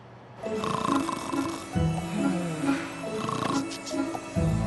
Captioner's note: snoring